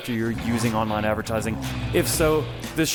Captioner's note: car engine revs